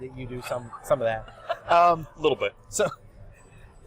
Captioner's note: laughs